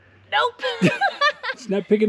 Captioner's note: laughs